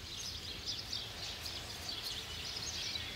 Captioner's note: birds chirping